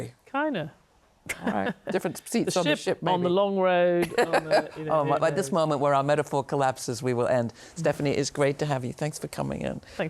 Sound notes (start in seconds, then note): 1.3 laughs; 5.1 laughs